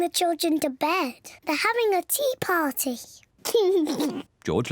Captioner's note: laughs